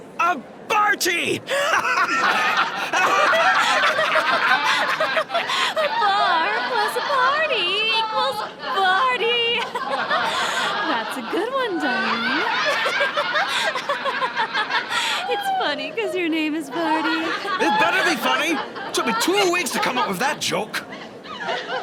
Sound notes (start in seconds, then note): 3.8 everyone laughs